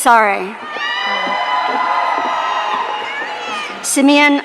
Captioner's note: audience cheering